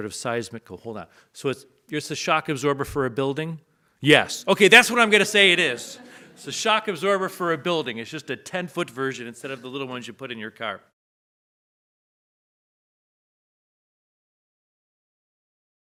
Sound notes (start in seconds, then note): 4.8 audience laughs